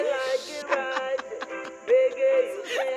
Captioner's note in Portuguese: gargalhadas